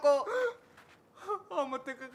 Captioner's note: gasps